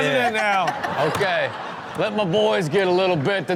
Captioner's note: all laugh